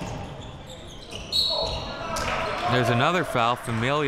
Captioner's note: whistle blows